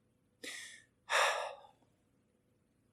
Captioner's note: sighs